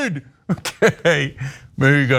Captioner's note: laugh